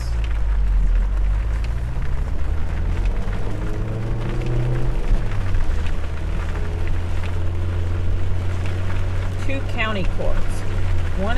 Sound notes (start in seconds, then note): 1.1 rain splattering; 4.1 engine roars